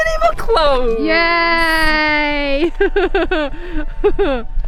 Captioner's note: laughs